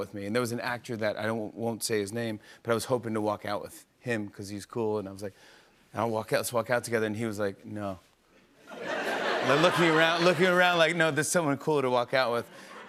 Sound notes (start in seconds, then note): 8.6 laughter